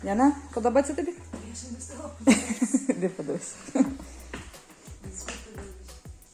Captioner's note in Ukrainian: сміх